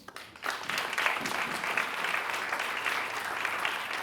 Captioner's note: audience applauding